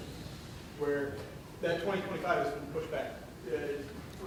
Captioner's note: speaking softly